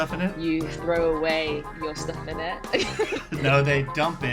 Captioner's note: laughs